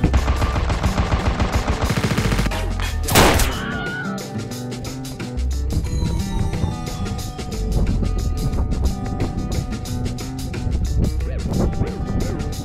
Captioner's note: bullets whizzing; Wilhelm scream